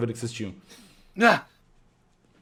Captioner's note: panting